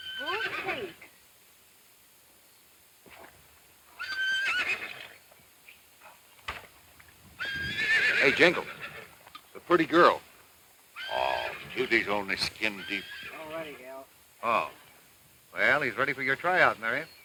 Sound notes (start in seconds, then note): 4.0 horse neighing